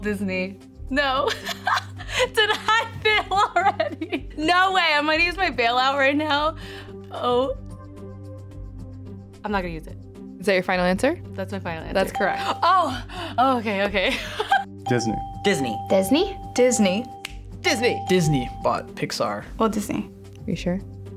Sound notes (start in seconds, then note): 1.3 laughing; 17.1 snapping fingers